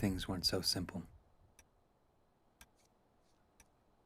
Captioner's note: clock ticking